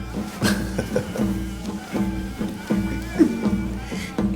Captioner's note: laughing